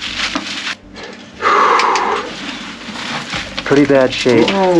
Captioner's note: exhales